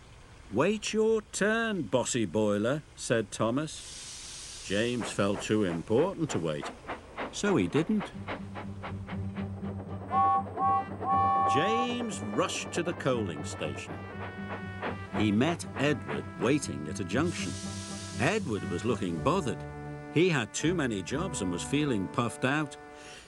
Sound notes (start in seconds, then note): 8.0 train huffing; 9.9 train whistle blows; 14.0 train puffing; 17.7 steam hisses